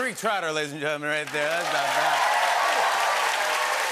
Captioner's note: cheers and applause